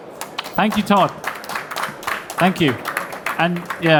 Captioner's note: audience applauding